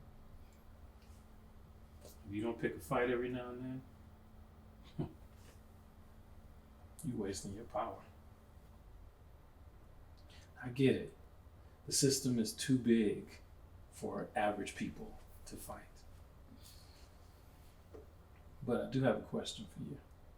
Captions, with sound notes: If you don't pick a fight every now and then (scoffs), you wasting your power. I get it. The system is too big for average people to fight. But I do have a question for you.